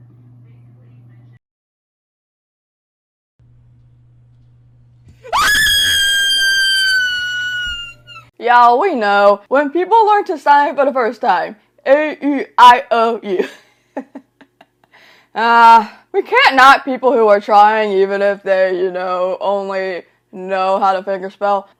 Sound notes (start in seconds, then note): 5.2 screams; 14.0 laughs